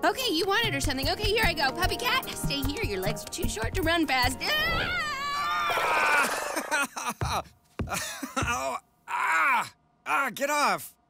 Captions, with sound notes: Okay you want it or something okay here I go. PuppyCat, stay here, your legs are too short to run fast. AAAAAA-- AHHHHH ha ha ha ha ha (taps ground) ha ha ahhhh, ahhhh, get off!